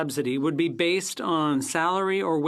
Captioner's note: speaking FRENCH